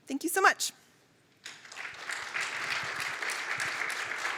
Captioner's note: applause